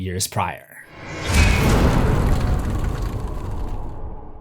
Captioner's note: impact